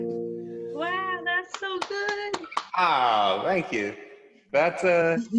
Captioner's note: claps